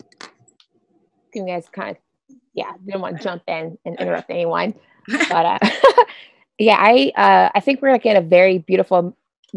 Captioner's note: laughs